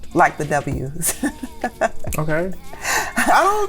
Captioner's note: laughter